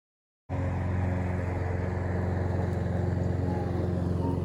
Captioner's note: lawn mower